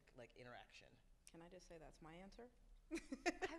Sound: laughs

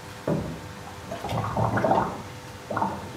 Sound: strong bubbling

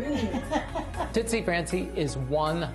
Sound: laughs

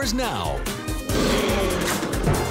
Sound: roars

